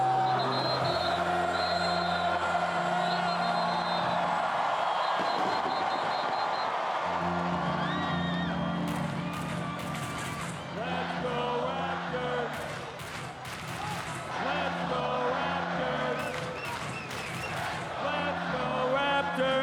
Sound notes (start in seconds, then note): 7.8 cheering; 8.7 applause